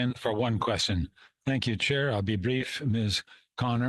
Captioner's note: speaking French